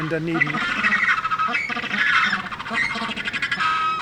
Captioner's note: penguins screeching